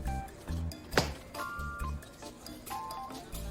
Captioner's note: slaps back